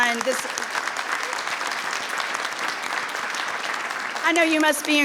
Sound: people applauding

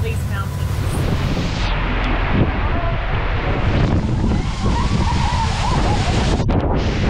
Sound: water crashing; wind whistling

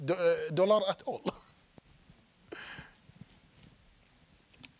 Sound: chuckling

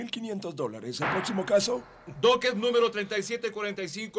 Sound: bangs gavel

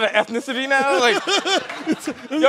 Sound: chuckling

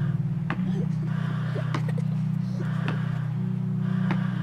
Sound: ventilated breathing intensifies; children laughing

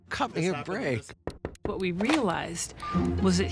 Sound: hand knocking on wood

